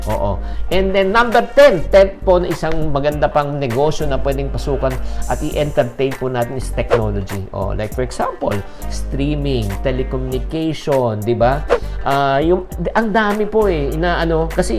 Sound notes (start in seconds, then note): 11.7 swoosh